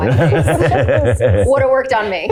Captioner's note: Paul chuckling